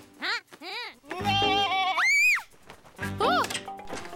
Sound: bleating; screaming

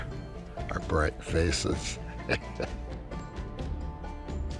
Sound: laughs

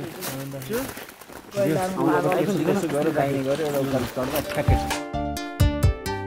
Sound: indistinct conversation

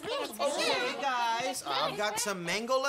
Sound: chatter

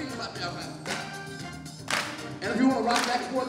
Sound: clapping

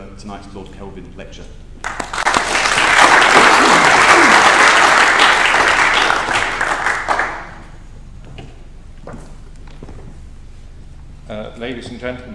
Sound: applause

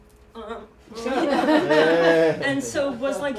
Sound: laughter

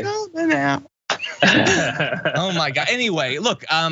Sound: laugh

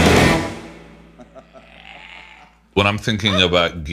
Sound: brothers laughing

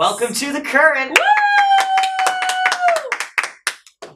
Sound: applause

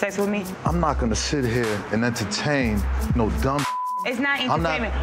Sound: beep

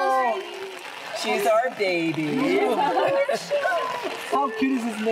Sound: laughing

